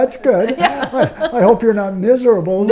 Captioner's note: laughs